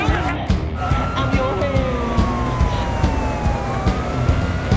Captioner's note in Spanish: Ruido de las sirenas